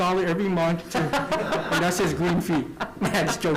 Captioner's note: laughter